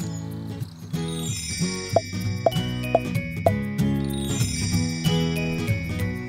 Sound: stars twinkle; cheerful music

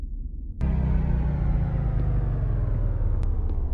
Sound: lights shutting down

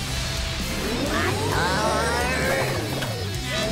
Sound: grunting

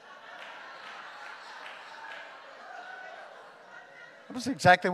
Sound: congregation laughing

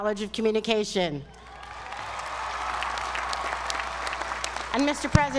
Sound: applause

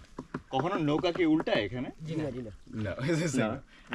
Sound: speaking local language

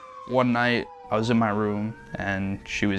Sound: siren wailing

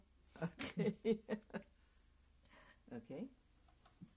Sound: laughs

